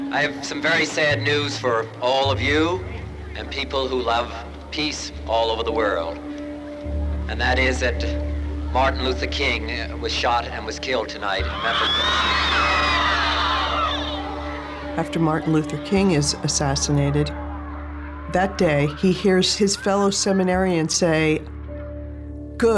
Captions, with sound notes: >> I have some very sad news for all of you, and people who love peace all over the world, and that is that Martin Luther King was shot and was killed tonight in Memphis, Tennessee. (audience screams) >> After Martin Luther King is assassinated, that day, he hears his fellow seminarians say,